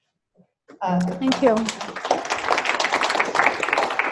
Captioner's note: students clapping